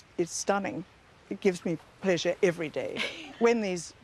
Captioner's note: laughs